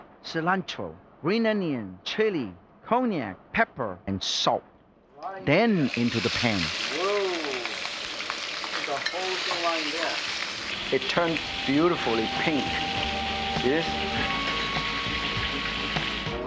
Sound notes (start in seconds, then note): 7.4 oil boiling; 13.5 relaxed music